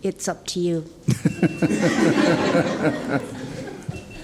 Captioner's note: laughing